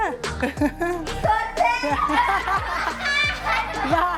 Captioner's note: laughs